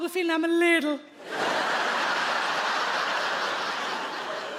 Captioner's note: audience laughs